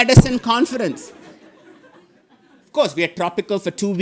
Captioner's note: audience laughing